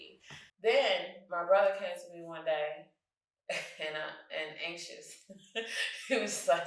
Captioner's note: chuckles